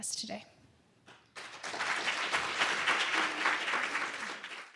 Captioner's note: audience clapping